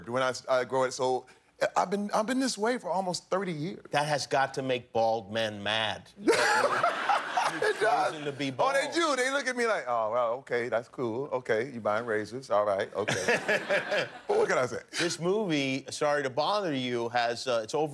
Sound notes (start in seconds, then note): 8.5 laughter